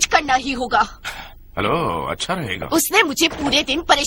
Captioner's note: sighs